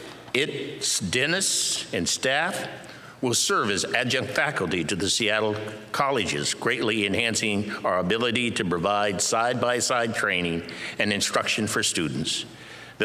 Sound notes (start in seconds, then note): none